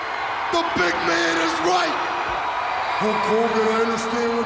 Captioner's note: audience cheering